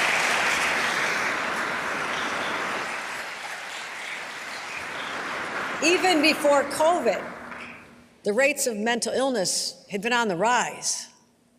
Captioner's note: applause